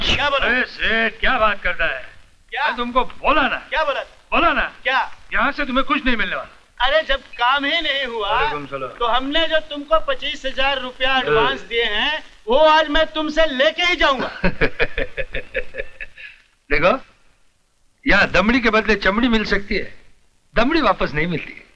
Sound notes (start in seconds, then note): 13.9 laughs